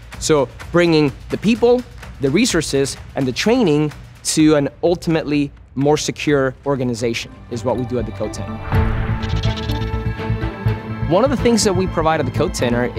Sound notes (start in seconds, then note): 8.6 upbeat music; 9.2 pencil scratching